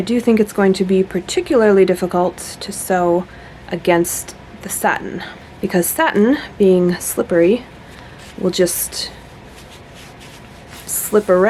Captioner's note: fabric noises